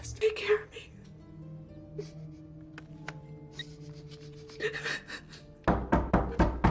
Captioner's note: sobbing; knocking loudly